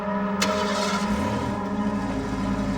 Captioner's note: engine starts